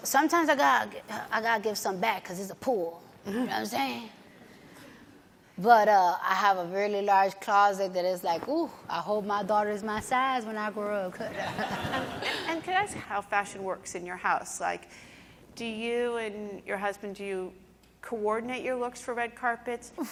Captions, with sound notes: Sometimes I gotta give some back 'cause it's a pool, you know what I'm sayin'? But I have a really large closet that is like, ooh, I hope my daughter's my size when I grow. [laughing] - And can I ask how fashion works in your house? Do you and your husband, do you coordinate your looks for red carpets?